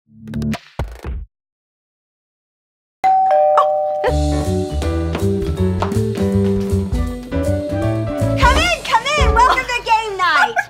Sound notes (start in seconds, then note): 3.0 doorbell chimes; 5.5 upbeat music